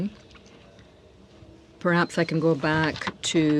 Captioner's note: speaking French